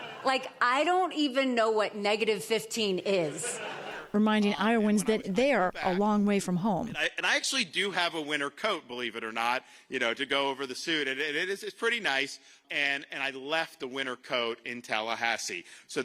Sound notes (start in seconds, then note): 0.0 laughter; 3.3 laughter